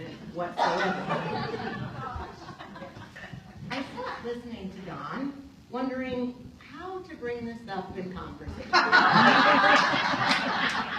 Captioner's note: laughter